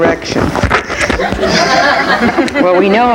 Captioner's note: audience laughing